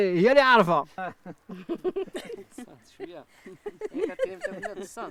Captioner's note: laughing